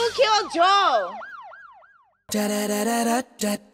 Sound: siren

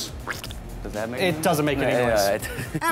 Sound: splatting

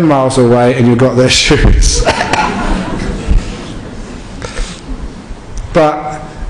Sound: laughter

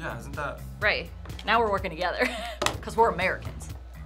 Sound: laughs

